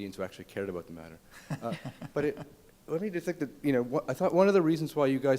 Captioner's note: panelists laugh